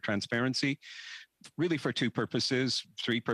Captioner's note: speaking French